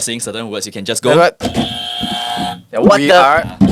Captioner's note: buzz